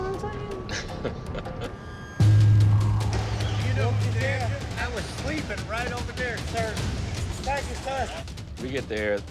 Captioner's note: chuckles